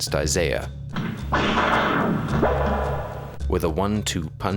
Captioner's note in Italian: suoni del gioco